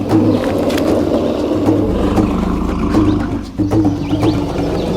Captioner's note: dinosaur growling continues